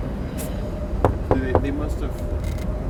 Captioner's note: knocks